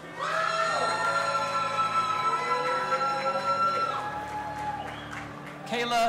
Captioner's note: audience applauding and cheering